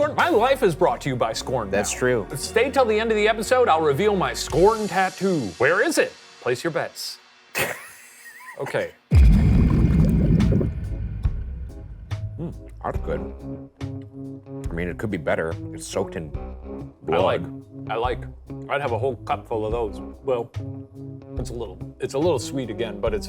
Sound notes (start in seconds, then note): 7.6 laughing; 10.4 spooky music